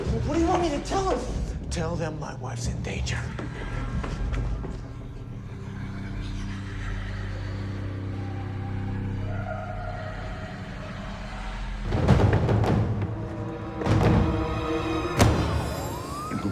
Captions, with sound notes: - What do you want me to tell them? - Tell them my wife's in danger. (eerie music) (voices whispering and wailing) (tense dramatic music)